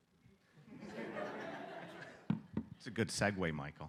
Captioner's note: laughter